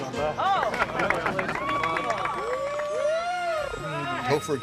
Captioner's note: cheers